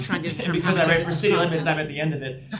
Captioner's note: murmurs